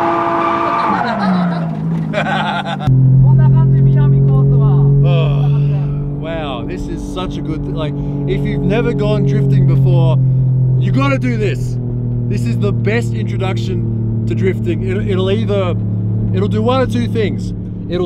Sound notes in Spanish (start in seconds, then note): 0.6 más risas; 2.0 risa